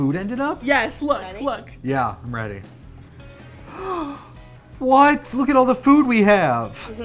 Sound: gasps

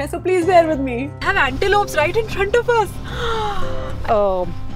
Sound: gasps

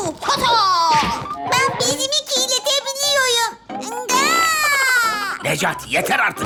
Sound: baby cry

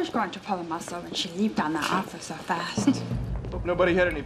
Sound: chuckling

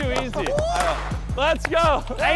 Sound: confetti popping

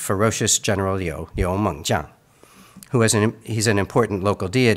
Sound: speaks in Mandarin

